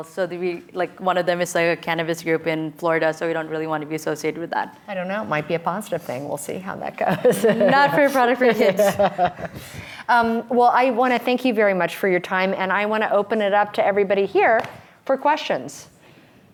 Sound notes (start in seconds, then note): 8.4 both chuckling